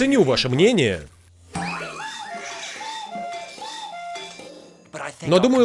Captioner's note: <i>cuckooing</i>